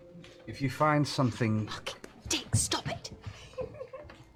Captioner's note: whispers